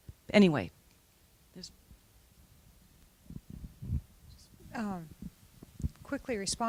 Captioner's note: silence